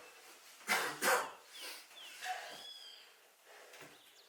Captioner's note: Phil coughs